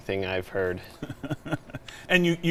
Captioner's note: chuckling